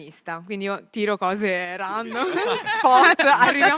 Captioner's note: laughing